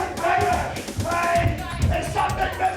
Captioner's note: footsteps plodding